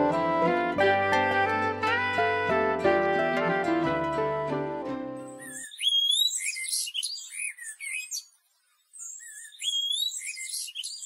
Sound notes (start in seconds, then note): 5.3 blackbird sings and birds chirp